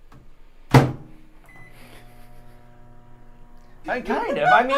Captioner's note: microwave door bangs; microwave beeps